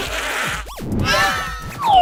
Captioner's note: all scream and get caught; all scream